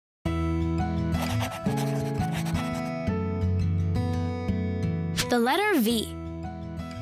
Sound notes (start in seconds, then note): 1.2 pencil whirring; 1.2 upbeat music